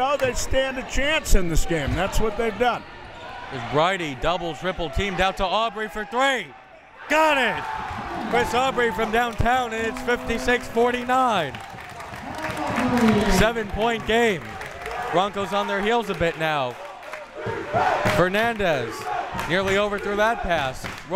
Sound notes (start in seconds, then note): 11.5 crowd members clapping